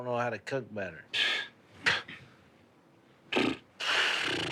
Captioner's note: scoffing